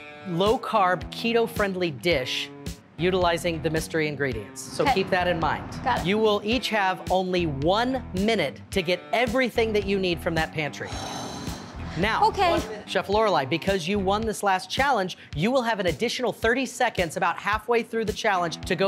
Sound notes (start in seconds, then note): 10.8 gasping